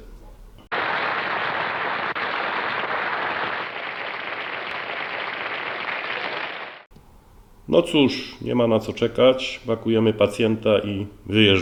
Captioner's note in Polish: Aplauz